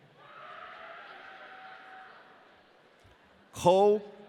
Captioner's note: audience cheering